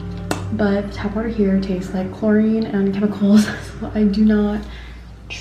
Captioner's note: laughs